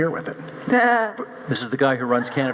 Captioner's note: laughs